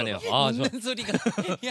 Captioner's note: laughter